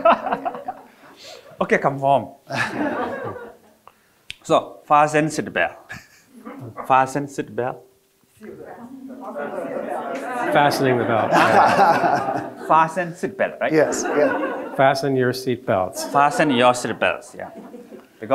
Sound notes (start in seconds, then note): 2.5 audience laughing; 2.5 laughs; 13.2 audience laughing